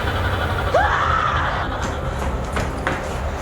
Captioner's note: Amber screams